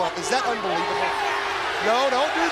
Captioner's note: crowd chatter